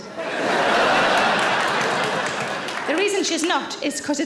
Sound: audience laughs and claps

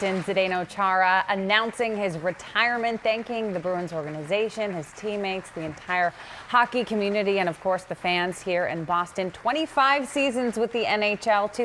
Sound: applause

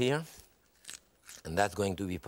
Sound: knife cutting

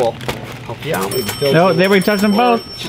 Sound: cash register dinging repeatedly

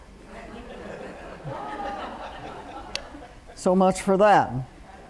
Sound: laughter

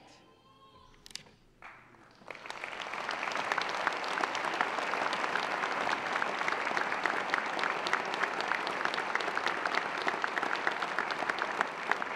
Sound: applause

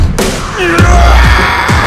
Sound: screaming

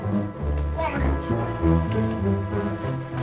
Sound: Sheriff speaking faintly; dramatic music

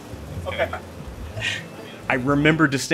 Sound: exhales

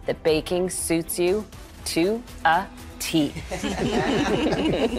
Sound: all laugh

